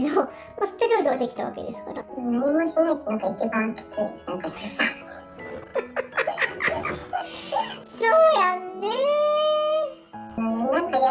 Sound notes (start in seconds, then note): 4.6 laughs